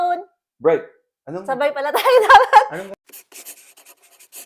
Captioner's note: laugh